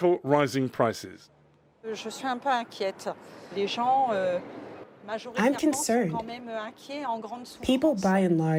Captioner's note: through translator